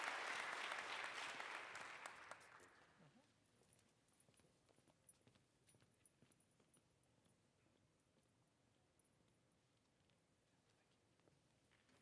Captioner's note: applause